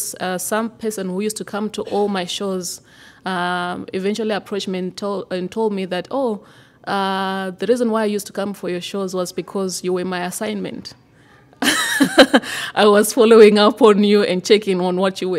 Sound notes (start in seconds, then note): 11.6 laughter